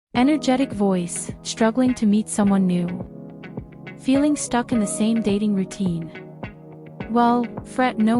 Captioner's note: Energetic voice